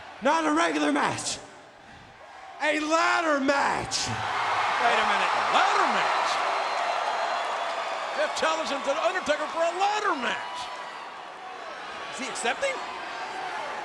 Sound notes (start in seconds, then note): 4.0 audience cheers